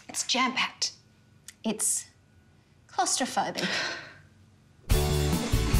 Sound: sigh

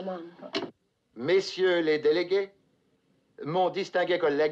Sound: speaking French

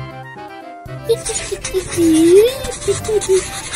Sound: various cartoon sound effects; scratching sound effect; sings gibberish

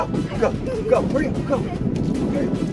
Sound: boys laughing

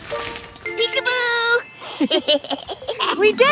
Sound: laughs

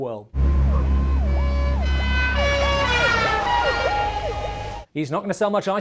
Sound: siren that sounds like ice cream van speeds past

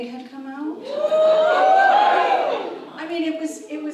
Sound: audience cheers

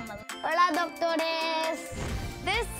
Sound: speaking Spanish

